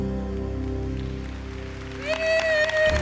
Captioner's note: applause; cheering